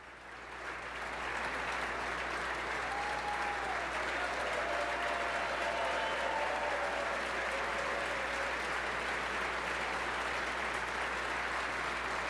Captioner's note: applause